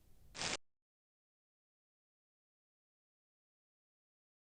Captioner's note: brief static noise